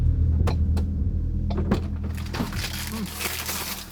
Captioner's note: paper rustling